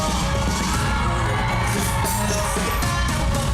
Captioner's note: audience cheering